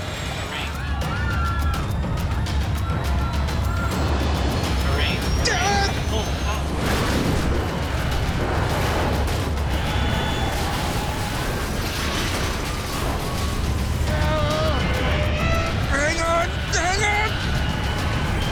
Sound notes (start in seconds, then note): 0.0 passengers screaming; 1.4 intense music; 5.7 pilot yelling; 6.9 plane crashes